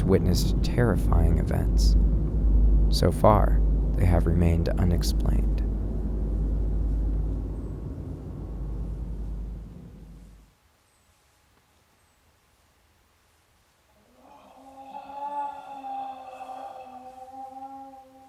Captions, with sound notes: witnessed terrifying events. So far, they have remained unexplained. (birds chirping) (cat growling and moaning)